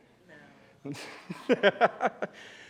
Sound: laughs

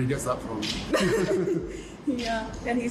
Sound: Meghan and Harry laugh

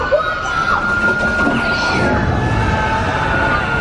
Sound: screaming

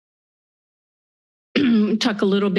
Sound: clears throat

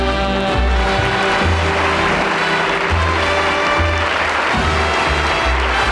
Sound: audience applauding

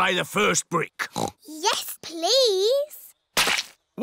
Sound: oinks

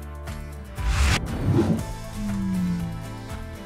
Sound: whooshing sound; upbeat music fades

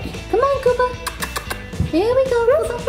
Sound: smooches

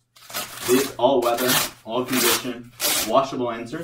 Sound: velcro ripping

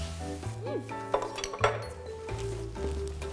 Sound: dishes ringing on table

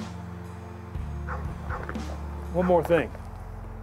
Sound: dog barking

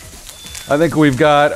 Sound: fire alarm beeps

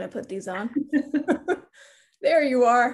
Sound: laughs

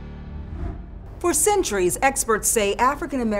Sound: air whooshes

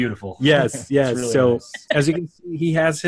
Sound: laughter

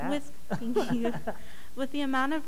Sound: laughing; soft Voice

